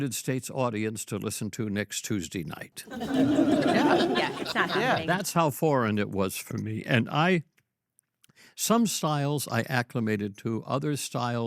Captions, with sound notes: United States audience to listen to next Tuesday night?" (all laugh) - Yeah, yeah. Not happening. - Yeah, that's how foreign it was for me. And I- some styles I acclimated to.